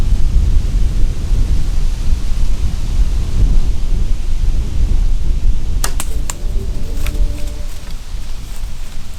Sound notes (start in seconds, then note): 5.7 arrow flying